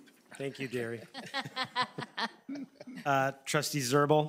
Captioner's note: trustees laughing